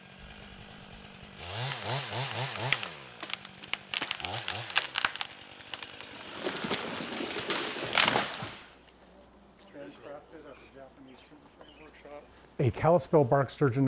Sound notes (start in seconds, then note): 0.0 chainsaw revving; 3.4 tree falling